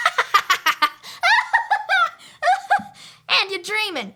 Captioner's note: laughing